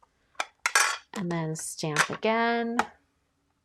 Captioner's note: stamper clicking